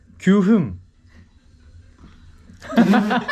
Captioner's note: silence